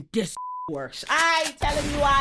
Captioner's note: beep